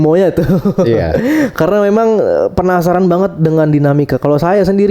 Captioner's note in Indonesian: tertawa